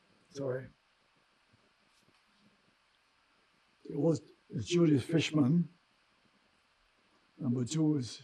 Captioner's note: wiping nose